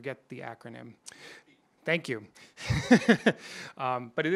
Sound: off microphone

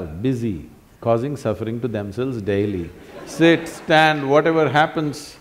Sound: laughter

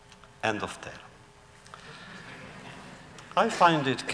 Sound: laughter

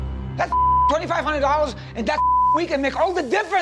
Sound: beep

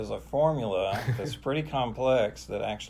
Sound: laughing

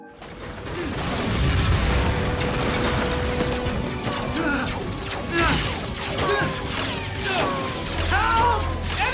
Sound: scared noises

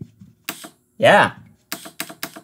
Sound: gas hissing

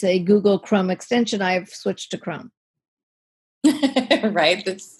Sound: laughs

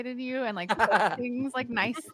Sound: laughing

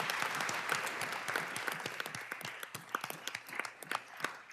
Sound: applause

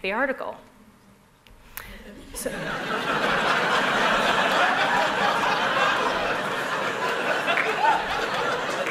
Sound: laughter

